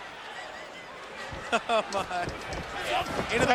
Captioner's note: group laughing